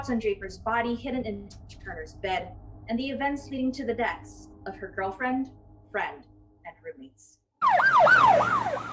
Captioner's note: poice siren